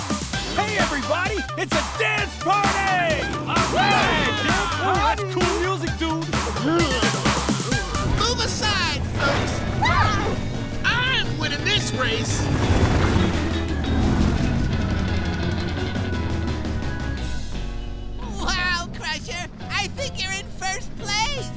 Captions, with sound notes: Hey everybody, it's a dance party! [cheering] Move aside, folks! I'm winning this race. Wow Crusher, I think you're in first place.